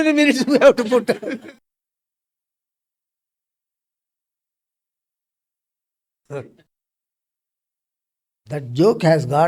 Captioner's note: laughs